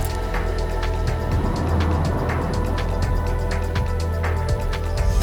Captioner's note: wind noise